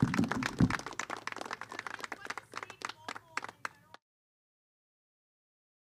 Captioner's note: applause